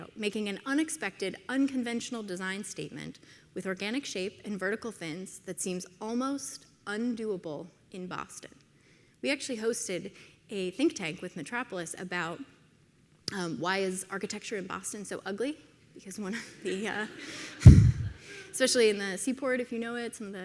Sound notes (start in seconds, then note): 16.4 audience laughs